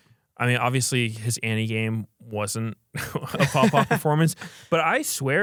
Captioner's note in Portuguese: risos